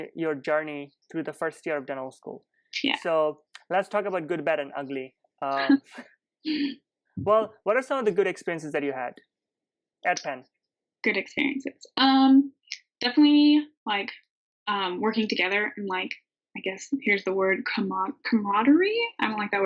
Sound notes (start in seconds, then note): 5.5 laughing